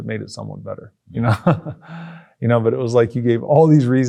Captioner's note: laughs